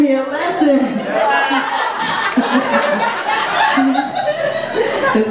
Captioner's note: audience laughs